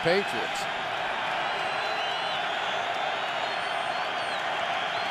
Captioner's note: cheering